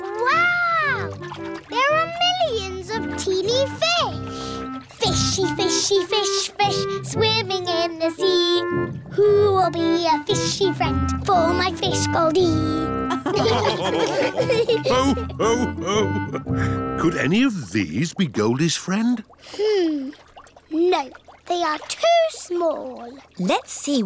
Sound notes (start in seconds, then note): 13.1 all laughing